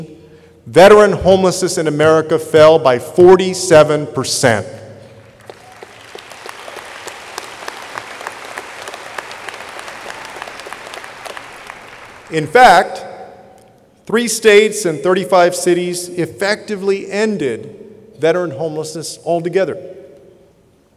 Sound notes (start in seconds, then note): 5.2 audience applauding